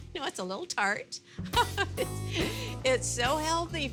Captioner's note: giggling